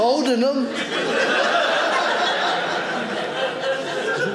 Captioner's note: audience laughing